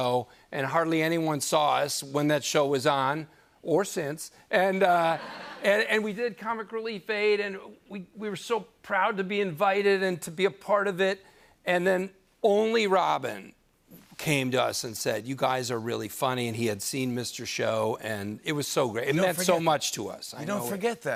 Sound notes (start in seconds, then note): 4.9 laughter